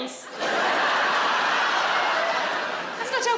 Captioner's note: audience laughs